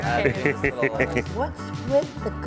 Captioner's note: laughing